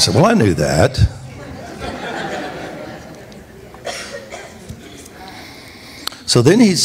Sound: congregation laughs

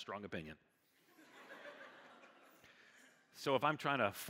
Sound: congregation laughing

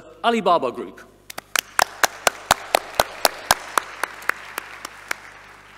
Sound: audience applauding

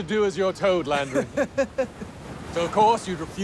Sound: laughing

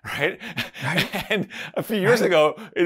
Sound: laughs

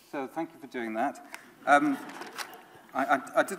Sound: audience laughs

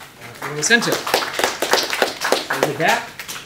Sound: applause

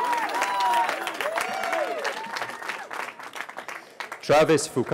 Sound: cheering

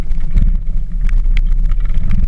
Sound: engine sounds

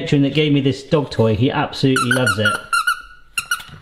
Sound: dog toy squeaking

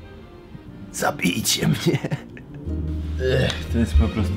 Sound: laughter

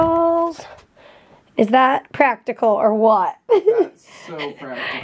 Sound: laughs

